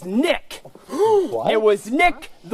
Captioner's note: dave gasps